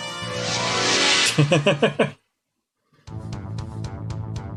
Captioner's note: laughs